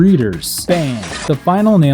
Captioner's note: glass shatters